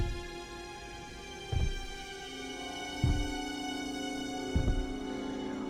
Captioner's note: foot steps